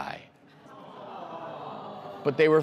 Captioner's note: crowd aww-ing